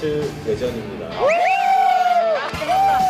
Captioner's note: cheering